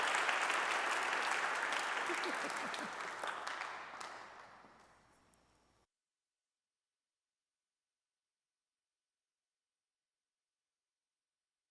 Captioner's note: audience applauding